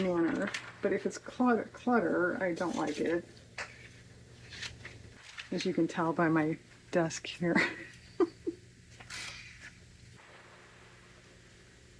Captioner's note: laughs